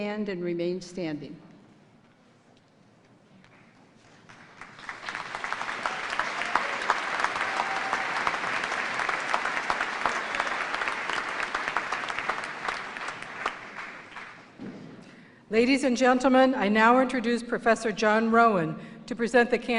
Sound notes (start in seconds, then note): 4.1 applause